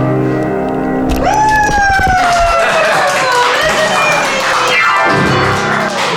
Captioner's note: cheering and clapping